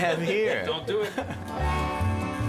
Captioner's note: people laughing